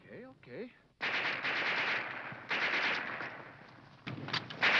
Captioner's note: guns firing